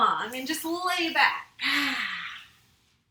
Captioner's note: exhales